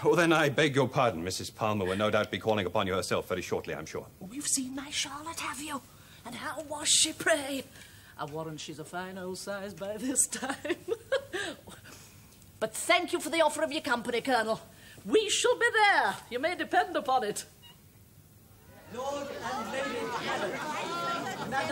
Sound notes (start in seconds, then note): 10.3 chuckling